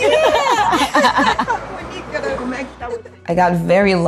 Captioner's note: laughter